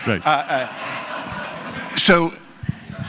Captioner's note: laugh